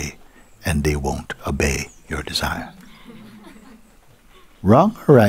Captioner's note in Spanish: Risas